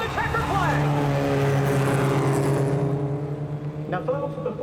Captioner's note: CROWDS CHEERING,</i> <i> CARS ACCELERATING